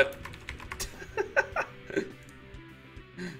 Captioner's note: laughs